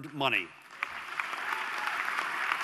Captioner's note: applause